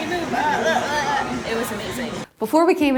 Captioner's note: making funny sounds